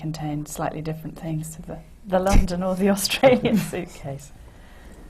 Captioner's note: laughs